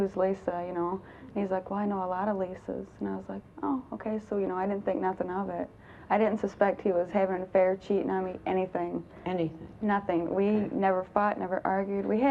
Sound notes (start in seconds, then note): none